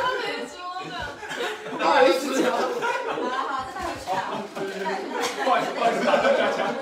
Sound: everyone laughing and chatting

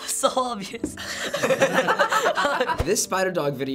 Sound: everyone laughs

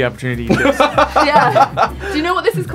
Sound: Jaboukie laughing

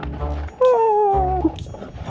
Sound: clown noises

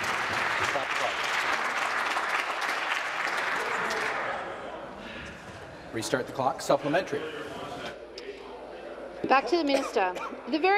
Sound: applause

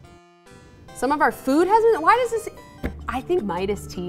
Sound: thumps desk; sinister music

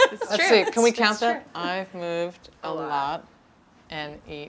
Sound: laugh

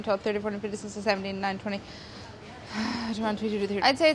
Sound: sighs

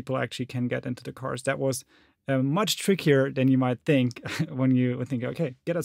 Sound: giggles

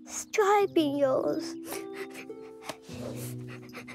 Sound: crying

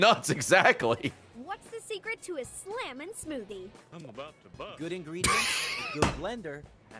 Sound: laughs

